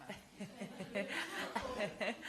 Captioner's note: laughter